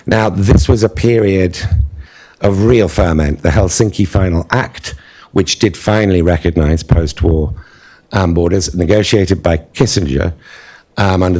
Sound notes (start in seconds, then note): none